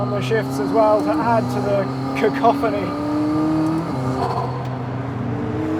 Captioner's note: engine revving